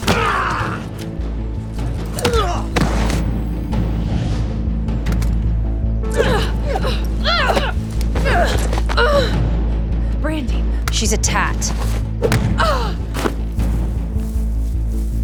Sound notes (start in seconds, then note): 0.2 thug grunting; 1.8 Jacob kicks; 2.2 thug grunts; 6.1 both grunting; 12.5 Lucinda grunts